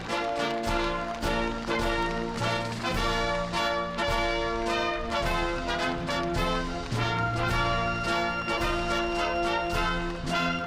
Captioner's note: applause